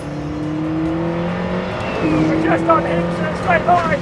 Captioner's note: engine roaring